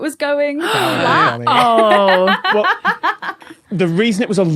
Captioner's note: laughs